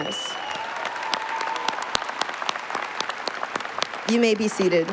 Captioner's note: applause